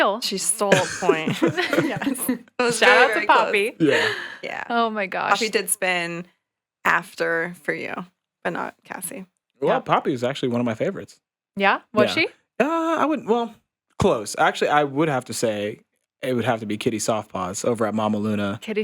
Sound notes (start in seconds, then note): 0.3 podcasters laughing